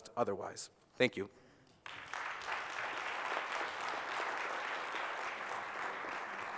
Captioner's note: applause